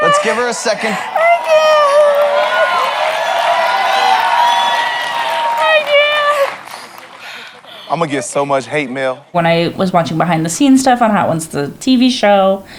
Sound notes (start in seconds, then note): 2.4 crowd cheers; 6.7 pants